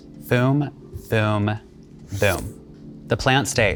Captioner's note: pen scratching